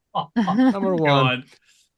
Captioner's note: laughs